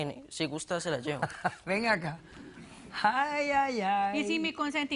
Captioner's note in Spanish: risas